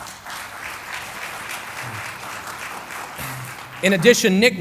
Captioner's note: applause